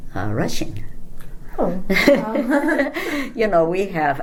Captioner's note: all laugh